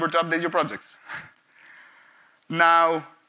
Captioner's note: chuckles